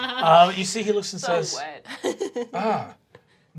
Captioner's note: laughing